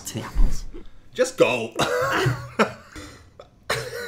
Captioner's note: coughs; laughs; laughing